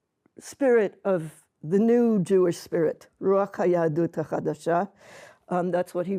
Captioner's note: hebrew